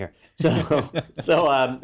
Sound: laugh

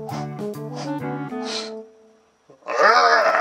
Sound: blows hands

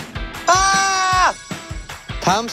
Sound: roar of joy

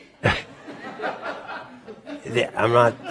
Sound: laughter

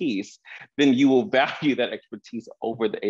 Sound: chuckles

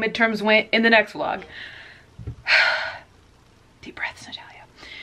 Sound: deep breath

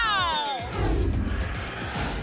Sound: whoosh

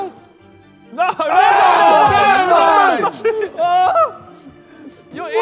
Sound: judges yelling

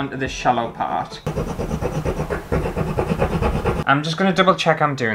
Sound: scratchy Sounds

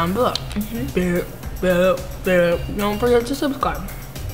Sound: makes beeping noises

